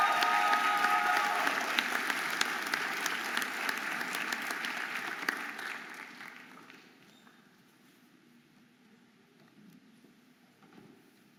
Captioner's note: audience applauding and cheering